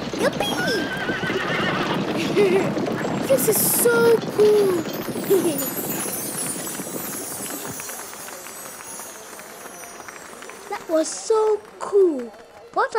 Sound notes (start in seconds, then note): 0.5 horses whinnying; 6.8 crowd applauding